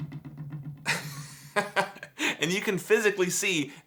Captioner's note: laughing